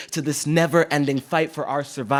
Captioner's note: none